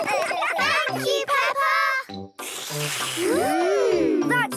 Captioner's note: all slurping